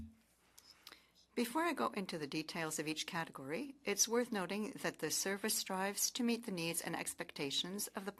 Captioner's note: speaking French